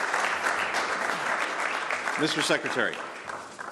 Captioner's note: applause